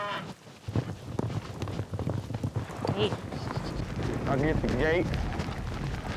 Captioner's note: mooing; hoof beats